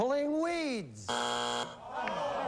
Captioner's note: buzzer; audience groans